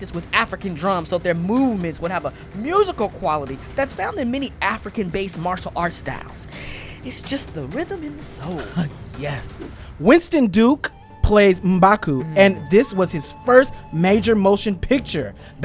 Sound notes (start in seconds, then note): 8.4 laughs